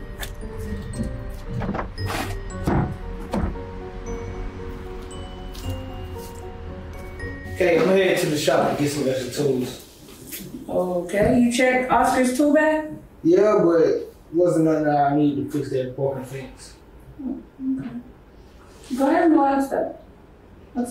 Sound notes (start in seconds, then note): 0.0 mysterious music continues; 2.7 garbage bin banging